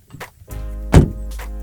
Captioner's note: thump